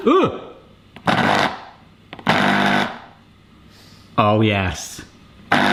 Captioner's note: machine hums